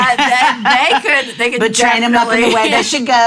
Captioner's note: chuckles